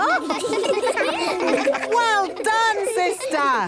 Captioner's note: children laughing